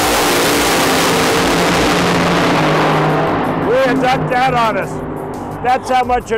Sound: loud engines go vroom!!

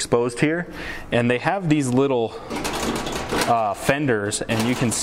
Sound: cracking

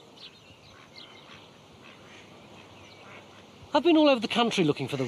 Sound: ducks quacking

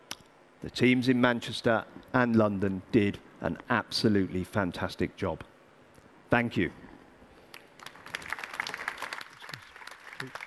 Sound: applause

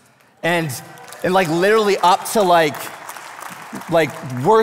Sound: congregation applauding

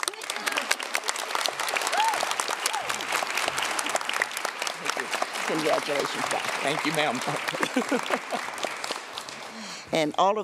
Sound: applause

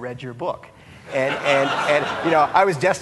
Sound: audience laughing

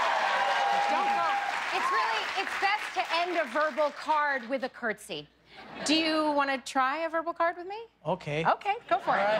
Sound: cheers and applause

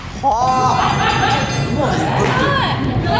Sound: can't stop laughing

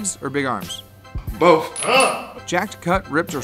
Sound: grunts

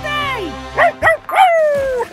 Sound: barking; laughing

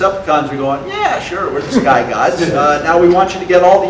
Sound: audience laughter

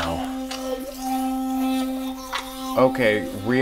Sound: electric toothbrush running

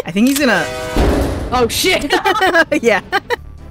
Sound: laughter

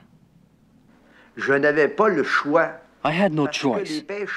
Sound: speaking in foreign language

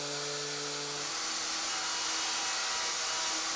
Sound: sander whirring

